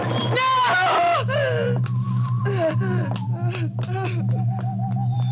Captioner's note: whimpers